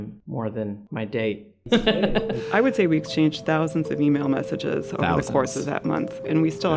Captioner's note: laugh